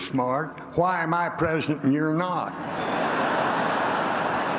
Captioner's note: laughter